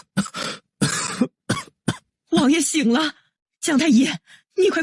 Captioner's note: cough cough